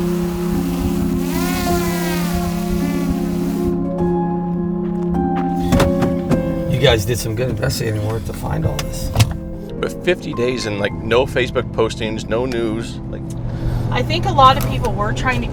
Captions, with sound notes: (drone humming) - You guys did some good investigating work to find all this. But 50 days and, like, no Facebook postings, no news. - I think a lot of people were trying